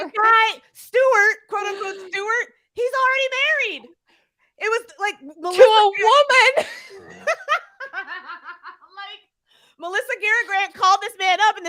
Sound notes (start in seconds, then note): 6.4 laugh